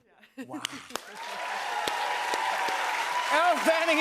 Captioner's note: cheers and applause